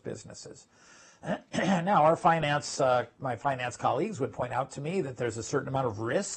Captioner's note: cough